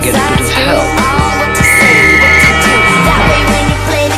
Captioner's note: Bric blows whistle for help